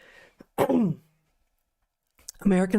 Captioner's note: clears Throat